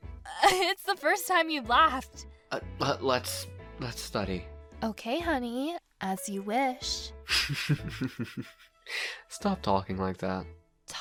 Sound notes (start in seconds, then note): 7.3 joshua chuckles